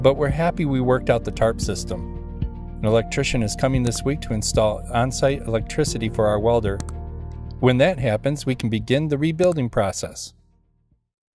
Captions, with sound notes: but we're happy we worked out the tarp system. An electrician is coming this week to install onsite electricity for our welder. (mouse click) When that happens, we can begin the rebuilding process.